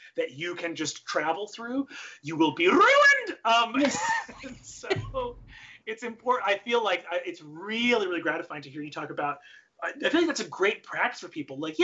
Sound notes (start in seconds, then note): 3.7 laugh